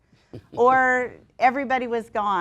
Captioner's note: laughs